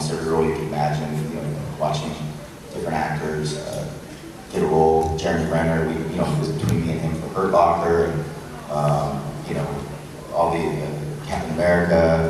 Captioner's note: audience laughs and cheers